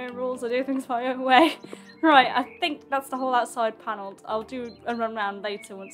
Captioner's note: laughs